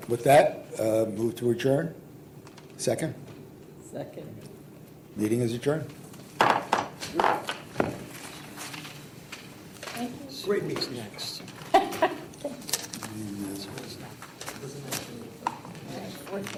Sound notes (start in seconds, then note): 6.4 gavel bangs; 11.6 laughs